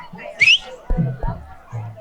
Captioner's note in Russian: свистит кого-то